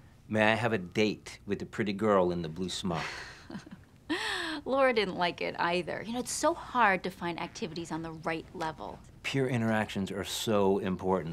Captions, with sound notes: "May I have a date with the pretty girl -in the blue smock?" -[chuckles] Laura didn't like it either. You know it's so hard to find activities on the right level. Peer interactions are so important,